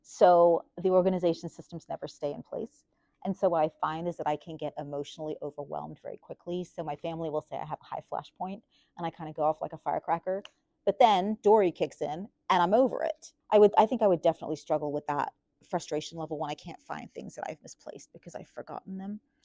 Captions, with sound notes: So, the organization systems never stay in place. and so what I find is that I can get emotionally overwhelmed very quickly so my family will say I have high-flash point and I kinda go off like a firecracker. *snap* But then, Dory kicks in and I'm over it. I think I would definitely struggle with that frustration level when I can't find things that I've misplaced because I've forgotten them.